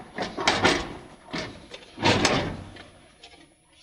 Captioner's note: metal clanging